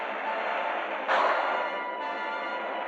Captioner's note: gunshot